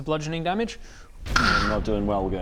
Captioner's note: kssschchh